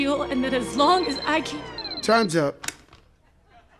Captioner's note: beeping